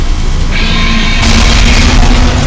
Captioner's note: beam whirring; explosion booms